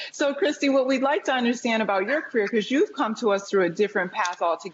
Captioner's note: laughter